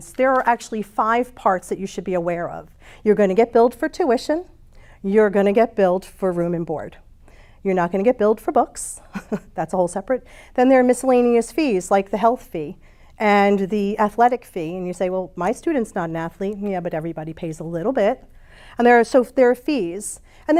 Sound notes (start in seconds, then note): 9.0 chuckles